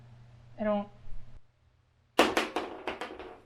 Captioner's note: crash